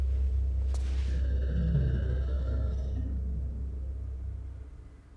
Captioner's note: creature growling